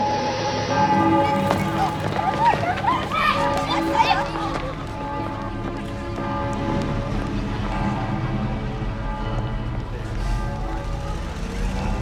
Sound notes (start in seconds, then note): 0.8 children laughing; 4.9 tower bell ringing